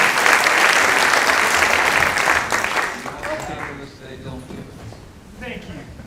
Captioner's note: applause